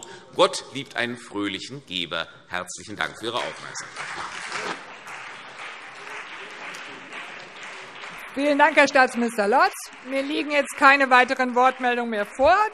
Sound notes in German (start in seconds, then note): 3.7 Beifall CDU, BÜNDNIS 90/DIE GRÜNEN und SPD - Heiterkeit - Zurufe